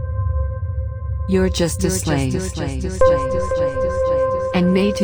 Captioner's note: voice echoing